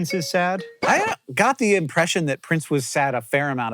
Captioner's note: record scratch